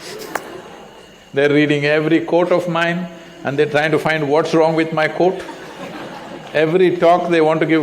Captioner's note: laughter